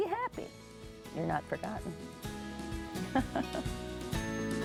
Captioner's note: chuckles; bright music